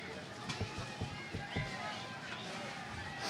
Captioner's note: crowd cheering